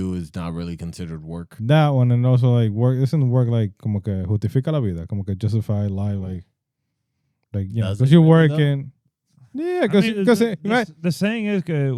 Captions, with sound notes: it's not really considered work. That one and also like, it doesn't work like, (Speaking In Foreign Language) Justify, lie, like, yeah, cause you're working. Yeah, cause-- The saying is,